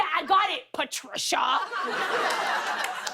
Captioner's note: laughter